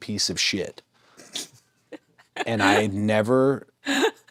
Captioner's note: Nattie laughs